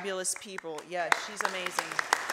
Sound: audience applause

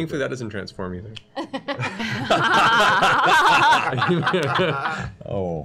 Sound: laughter

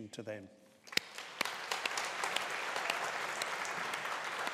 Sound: graduates applauding

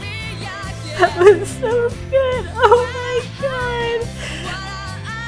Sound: crying

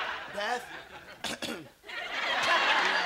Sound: clearing throat

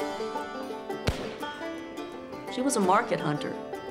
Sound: gunshots

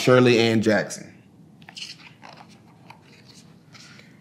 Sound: pages rustling

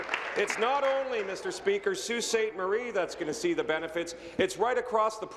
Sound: applause

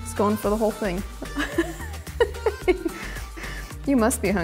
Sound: laughs

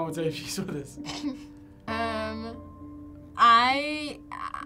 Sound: laughs

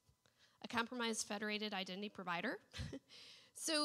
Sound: laughs

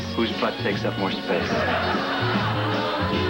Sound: audience laughter

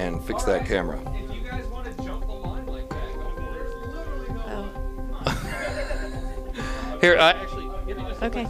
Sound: laughing

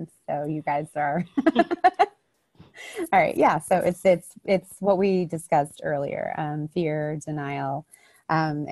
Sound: chuckles

